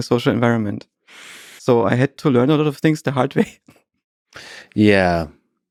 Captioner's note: laughs